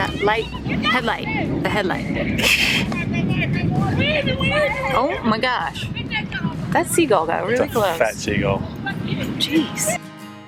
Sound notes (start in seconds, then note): 2.2 laughing